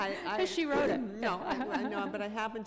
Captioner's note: chuckle; chuckle